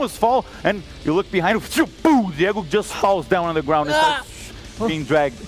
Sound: pow

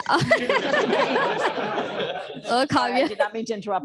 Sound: laughter

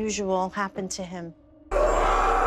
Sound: screams

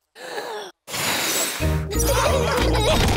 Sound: blows; laughter

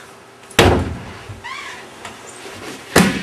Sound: clonk

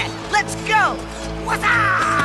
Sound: kung fu yells

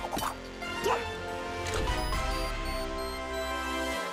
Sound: beeping

